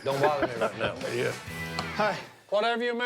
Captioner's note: laughs